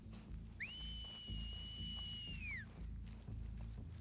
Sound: whistle

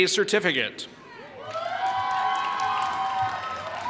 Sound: applause

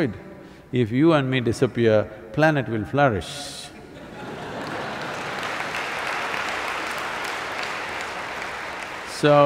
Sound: laughter/Applause

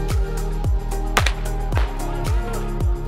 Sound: bright pulsating music; starter pistol pops; bright pulsating music

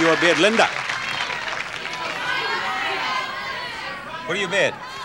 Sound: audience shouts

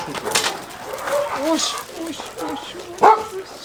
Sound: petting voice

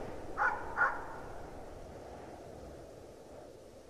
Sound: dog barking

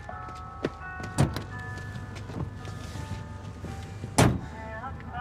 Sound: car door opens, shuts

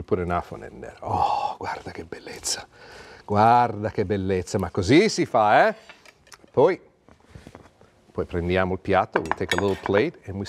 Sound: speaking Italian

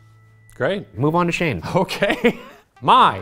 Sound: laughs; suspenseful music

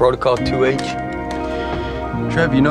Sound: Philip sighs

